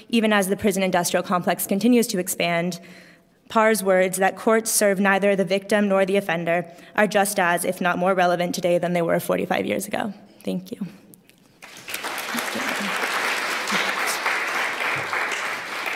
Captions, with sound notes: even as the prison industrial complex continues to expand, PAR's words that courts serve neither the victim nor the offender are just as, if not more, relevant today than they were 45 years ago. Thank you. [APPLAUSE]